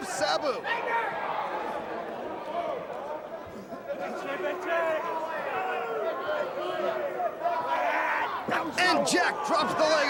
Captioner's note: crowd chatter